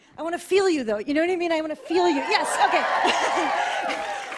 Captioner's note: cheers